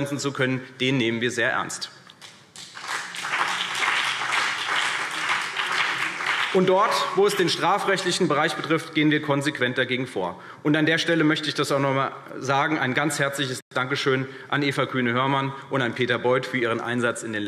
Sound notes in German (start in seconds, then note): 2.5 Beifall CDU und BÜNDNIS 90/DIE GRÜNEN